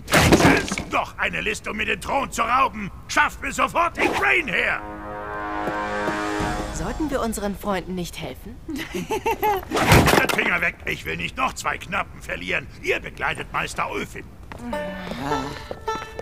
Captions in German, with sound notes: Die Tintagels wollen mir den Thron rauben! Schafft sofort Igraine her! (Düstere Musik) Helfen wir unseren Freunden? Finger weg! Ich brauche euch Knappen. Begleitet Meister Ulfin. (Seufzen)